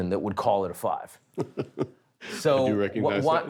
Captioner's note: chuckles